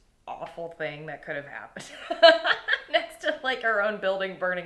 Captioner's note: laughing